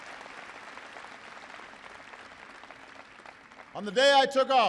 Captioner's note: applause